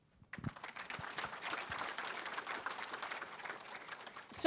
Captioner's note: applause